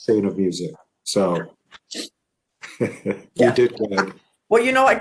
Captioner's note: chuckles